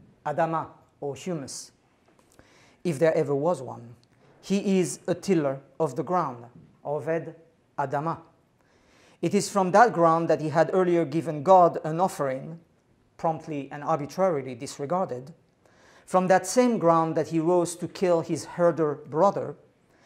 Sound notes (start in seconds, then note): 0.1 non-english speech; 6.9 non-english speech